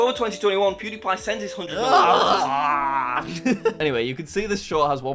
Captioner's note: groans